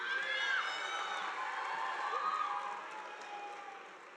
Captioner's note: audience applauding